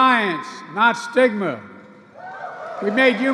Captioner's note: applause